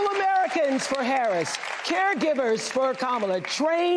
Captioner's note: cheers and applause